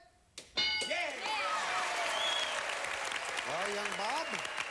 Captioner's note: audience applauding